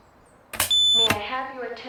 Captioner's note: pull station noises